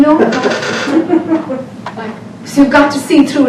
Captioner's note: audience laughter